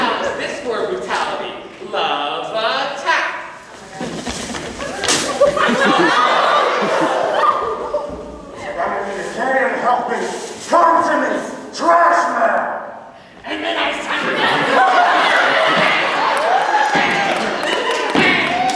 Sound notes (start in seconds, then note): 4.1 paper ripping